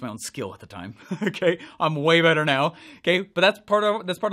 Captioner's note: laughs